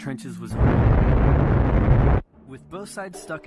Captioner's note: hot boiling noises